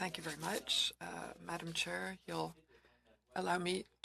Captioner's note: speaking french